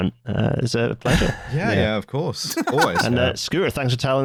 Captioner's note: laughs